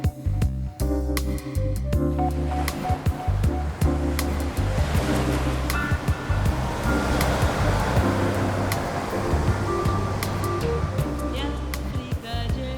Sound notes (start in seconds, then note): 3.7 ocean waves